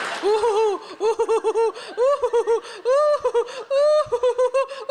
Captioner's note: audience laughing; hysterical laughter